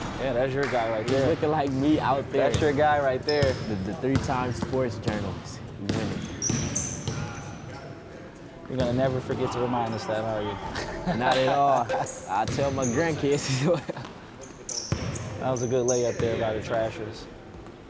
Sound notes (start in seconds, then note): 10.6 laughing; 14.4 laughing